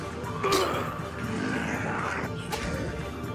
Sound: thudding

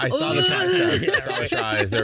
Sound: growls

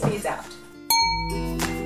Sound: ding

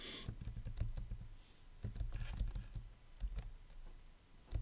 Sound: computer keypad rattling

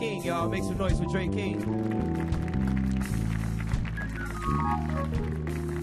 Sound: audience applauding

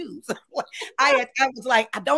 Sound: both laughing

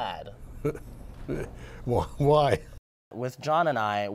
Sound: chuckles

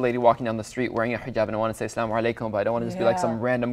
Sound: speaks in foreign language

